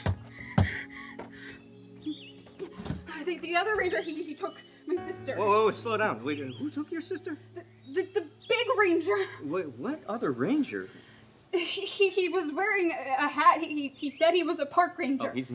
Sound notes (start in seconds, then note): 7.9 stammers